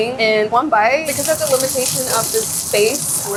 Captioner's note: oil sizzling